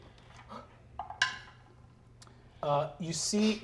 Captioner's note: dice clatter